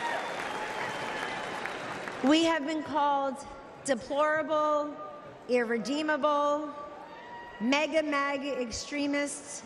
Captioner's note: applause